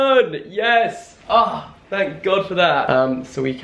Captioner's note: groans